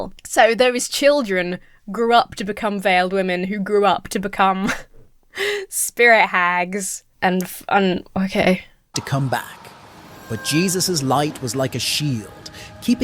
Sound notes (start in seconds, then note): 4.6 laughs